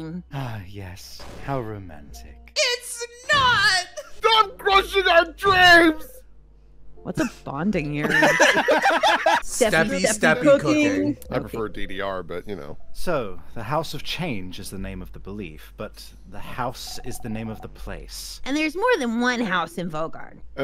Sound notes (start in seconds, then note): 8.0 laughter